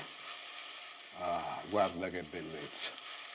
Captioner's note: speaking Italian